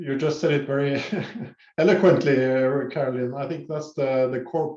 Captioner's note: laughs